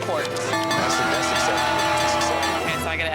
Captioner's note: bell ringing; cheering